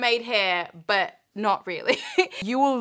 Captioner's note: chuckling